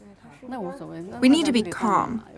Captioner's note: speaking foreign language